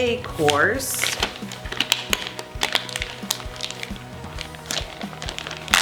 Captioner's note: packaging crinkling